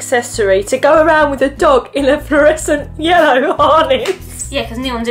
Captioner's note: laughing